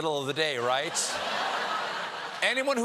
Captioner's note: laughter